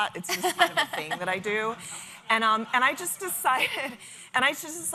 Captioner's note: laughter